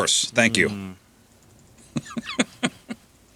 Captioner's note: laughing